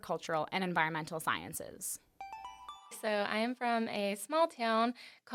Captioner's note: chime